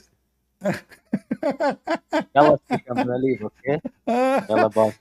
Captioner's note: Ketawa